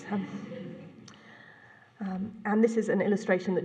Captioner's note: laughter